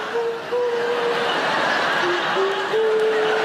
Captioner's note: audience laughing